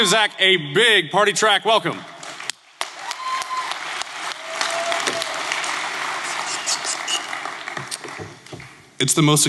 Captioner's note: clapping